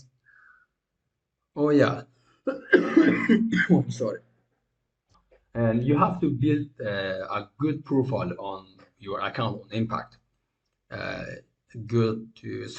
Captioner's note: coughing